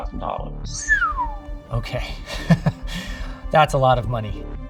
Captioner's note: whistling; laughing